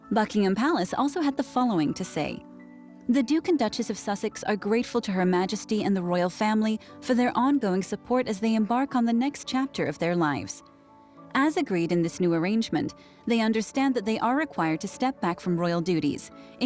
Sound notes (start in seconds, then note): none